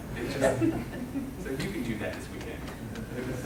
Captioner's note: laughing